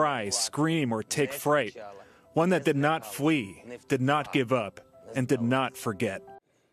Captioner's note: speaking non-english